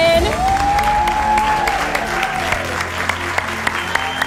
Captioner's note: audience applauds